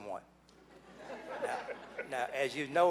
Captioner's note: laughing